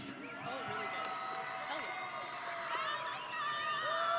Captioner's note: audience cheering